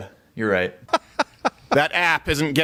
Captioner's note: laughs